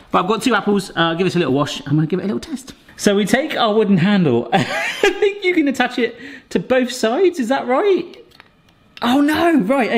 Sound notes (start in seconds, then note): 4.5 laughter